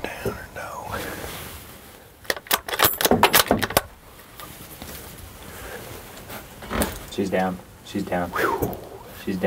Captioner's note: whispering